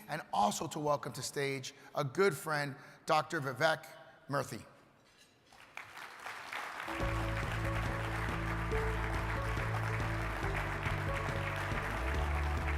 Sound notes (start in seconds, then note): 5.5 crowd applauding; 6.8 uplifting music